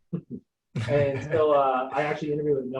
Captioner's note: laughing